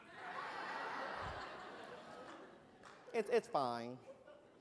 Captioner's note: laughter